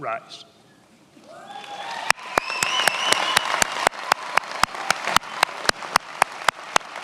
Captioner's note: attendees applauding and cheering